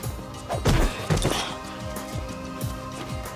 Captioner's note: foot thuds